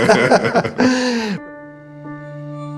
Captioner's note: laughs